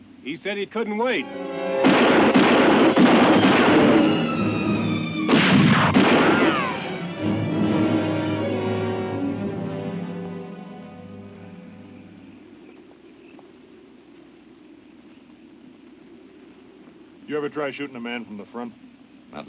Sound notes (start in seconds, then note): 1.7 guns bang; 7.1 dramatic music